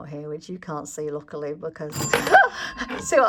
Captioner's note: bell Rings!